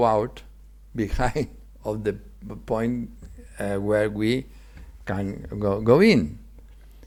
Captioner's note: chuckles